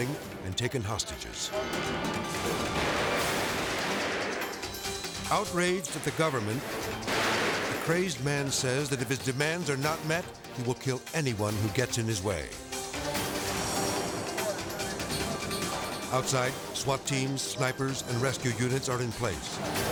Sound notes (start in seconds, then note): 1.6 gun banging; 12.4 tense music